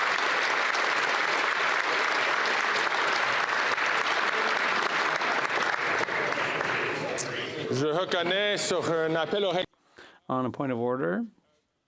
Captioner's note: applause